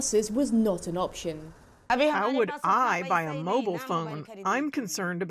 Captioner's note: through translator